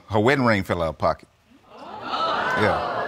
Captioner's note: audience exclaiming